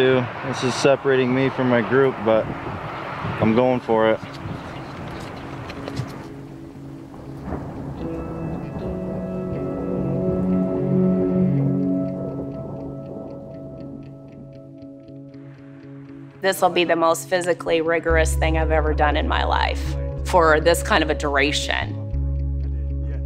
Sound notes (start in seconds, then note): 4.9 ominous music; 7.1 thunder